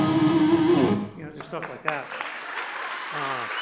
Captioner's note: cheers and applause